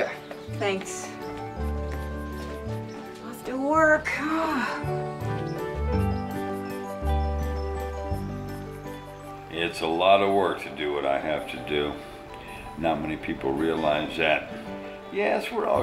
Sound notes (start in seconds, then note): 5.6 groans; 6.7 gentle upbeat music